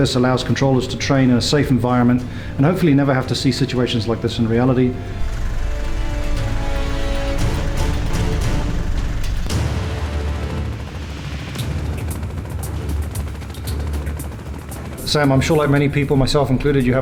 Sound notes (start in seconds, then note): 5.8 upbeat music; 11.3 helicopter engine roaring